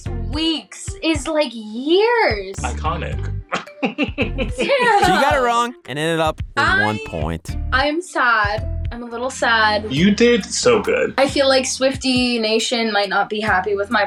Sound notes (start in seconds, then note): 5.0 laughing